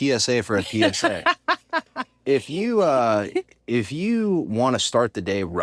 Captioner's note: laugh